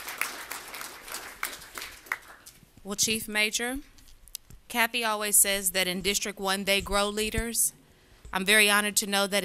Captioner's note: applause